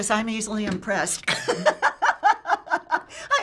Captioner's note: laughing